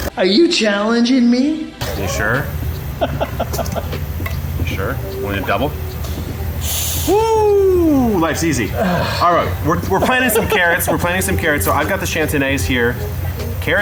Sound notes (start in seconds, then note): 2.9 laughing; 6.6 whooshing; 9.6 laughing